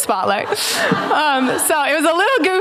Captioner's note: laughter